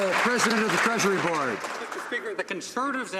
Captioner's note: some Applause